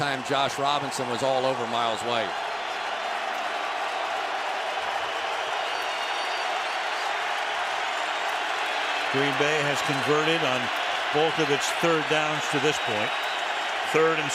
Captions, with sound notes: But that time, Josh Robinson was all over Myles White. [crowd cheers] Green Bay has converted on both of its third downs to this point.